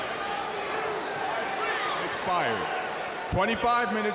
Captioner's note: crowd cheering